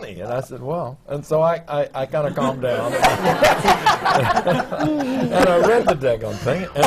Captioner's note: laughter